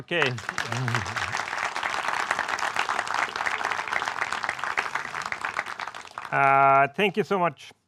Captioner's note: crowd cheers